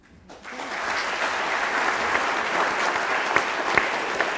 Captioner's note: audience clapping